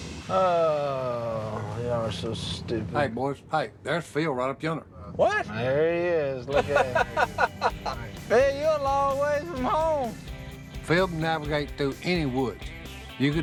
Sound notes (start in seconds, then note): 0.3 Willie sighing; 6.5 laughing